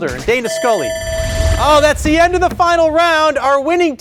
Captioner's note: buzzer ringing